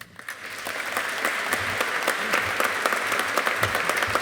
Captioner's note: audience applauding